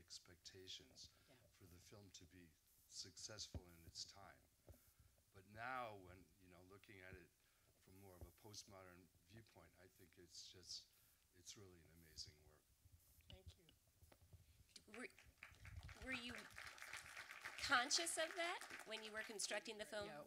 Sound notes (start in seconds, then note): 15.3 audience applause